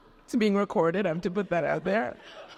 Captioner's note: audience laughs